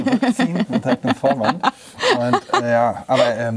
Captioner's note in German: Sie lacht